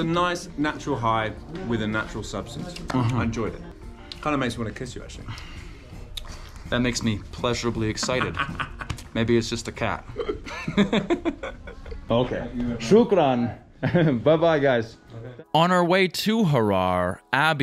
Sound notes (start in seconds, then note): 10.1 both laugh; 13.1 speaking in foreign language